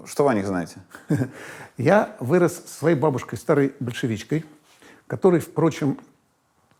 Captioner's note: chuckles